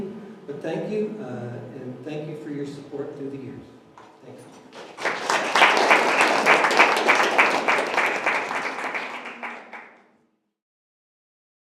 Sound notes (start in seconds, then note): 4.6 applauses